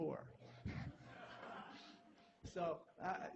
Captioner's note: laughter